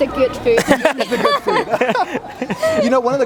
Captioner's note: laughs